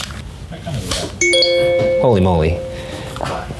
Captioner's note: laptop chimes